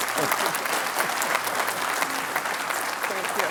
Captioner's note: applause